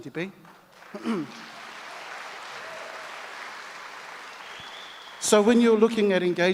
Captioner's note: audience applauds and cheers